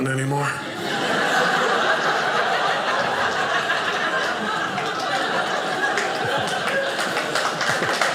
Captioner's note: audience laughing